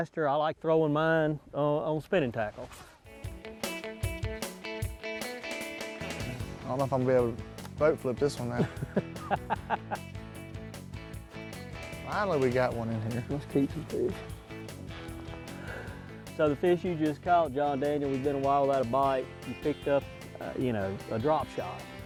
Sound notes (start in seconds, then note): 4.1 country music; 10.0 laughs